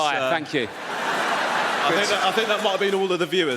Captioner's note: audience laughs